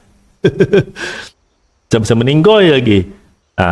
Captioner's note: laughs